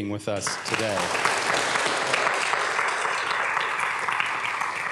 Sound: applause

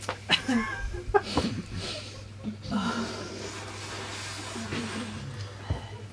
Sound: laughter subsides

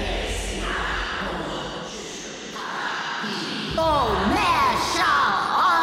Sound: voices chanting in foreign language

